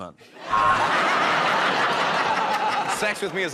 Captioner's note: laughter